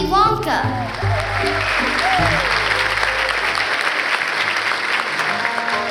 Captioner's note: applause